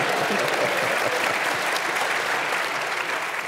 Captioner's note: applause